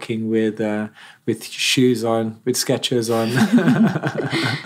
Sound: laughs

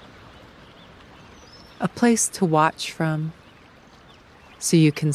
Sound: birds calling

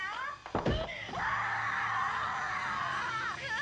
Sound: screaming

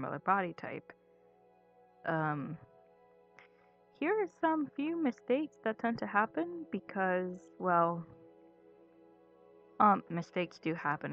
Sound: long pause

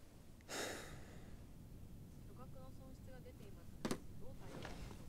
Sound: exhales heavily; people chatter quietly in japanese

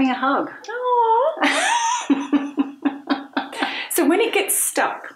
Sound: both laughing

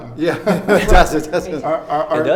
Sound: laughing

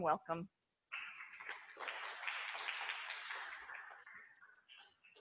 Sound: audience applauds

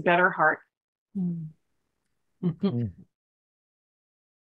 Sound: laughter

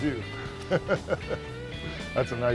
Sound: laughter

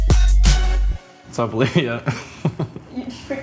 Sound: laughs

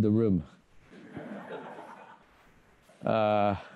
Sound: laughter

